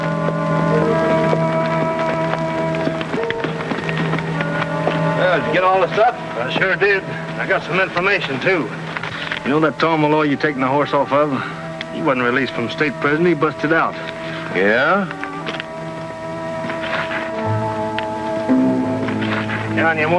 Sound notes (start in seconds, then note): 0.0 horse trotting; 0.9 pensive orchestral music; 16.9 tense orchestral music